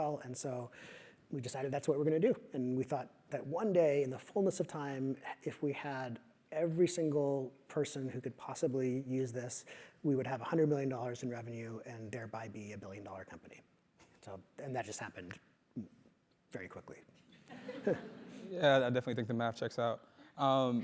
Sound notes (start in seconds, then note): 17.5 laugh